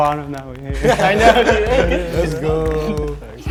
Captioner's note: all laughing